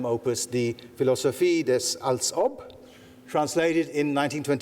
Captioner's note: speaking in foreign language